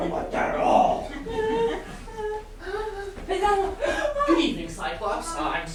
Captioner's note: sailors whimpering in fear